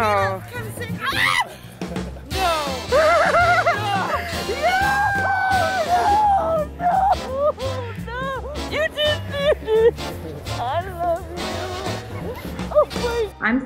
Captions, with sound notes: Caleb, come say (screams) No, no, no, no, no! (crying) I love you.